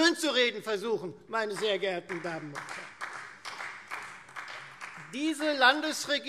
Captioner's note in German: Beifall Freie Demokraten